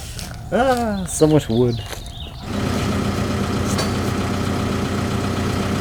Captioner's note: motor humming